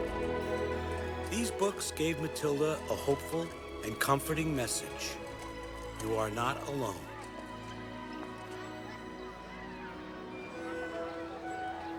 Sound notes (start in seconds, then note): 4.3 children Laughing, Chattering